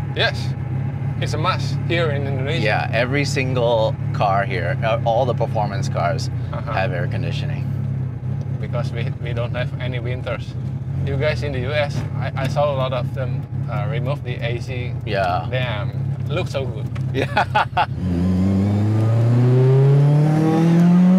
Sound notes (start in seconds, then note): 17.1 laughs; 18.0 car engine revving